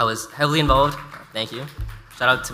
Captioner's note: audience applauds